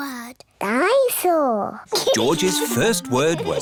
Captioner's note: giggles